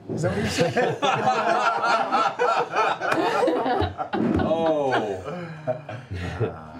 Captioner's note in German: Gelächter